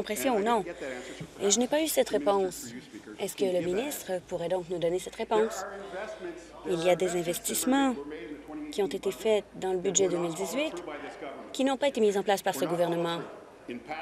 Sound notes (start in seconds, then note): none